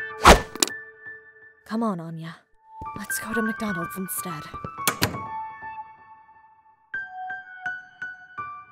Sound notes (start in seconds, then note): 4.8 door closes